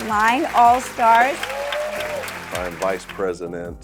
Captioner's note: audience applauding